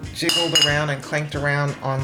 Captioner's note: bottles clanking